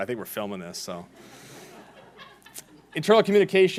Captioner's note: laughing